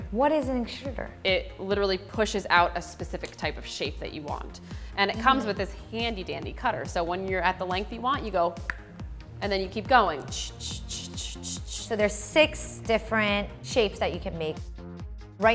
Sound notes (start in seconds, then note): 8.6 clicks tongue; 11.2 shushing